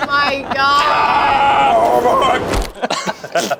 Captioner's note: yells; everyone laughs